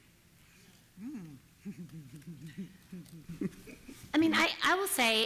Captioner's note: laughter